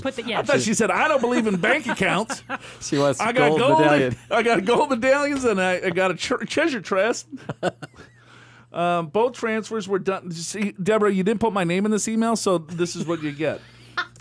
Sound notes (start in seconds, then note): 7.3 laughs